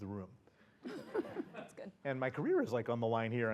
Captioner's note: laugh